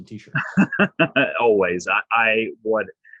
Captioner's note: laughs